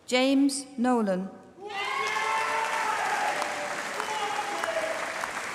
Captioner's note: applause